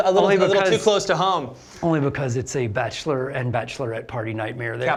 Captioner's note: none